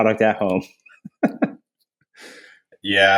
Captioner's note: laughs